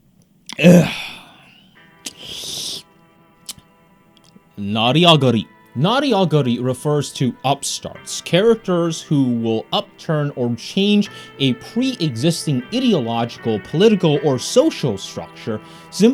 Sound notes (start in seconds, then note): 0.5 gasps